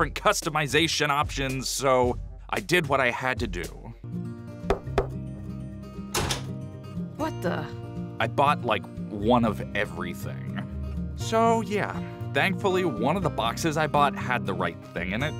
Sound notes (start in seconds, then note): 4.7 knocks